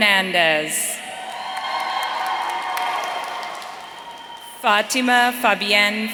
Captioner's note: audience cheering